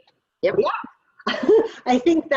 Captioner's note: chuckles